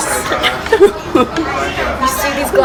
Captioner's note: laughs